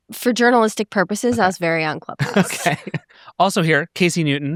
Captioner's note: chuckling